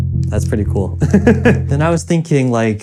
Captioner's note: laughs